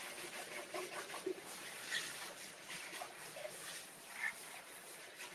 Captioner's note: water trickling continues